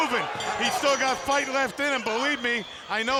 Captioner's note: bell ringing